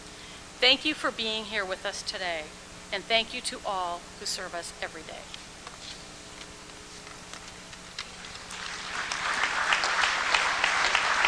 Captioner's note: applause